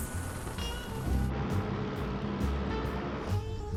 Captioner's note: airplane humming; jazz music